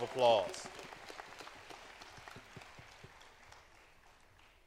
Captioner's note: applause